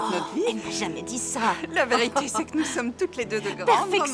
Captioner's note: laughing